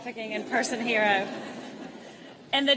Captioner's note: laughter